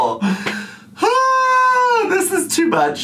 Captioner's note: groans